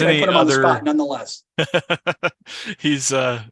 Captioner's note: laughs